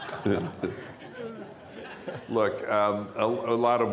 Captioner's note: laughter